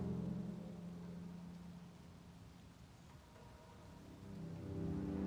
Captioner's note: soft dramatic music continues; rain pattering